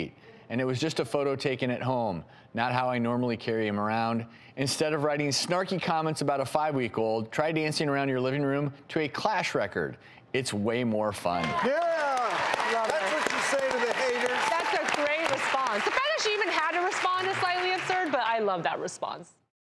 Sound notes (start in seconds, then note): 12.1 applauding